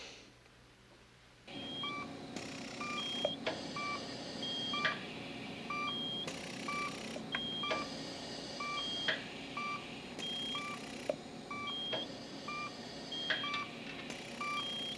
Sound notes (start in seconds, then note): 1.5 beeping